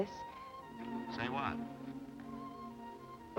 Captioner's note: on telephone